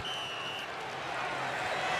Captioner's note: whistle; crowd cheering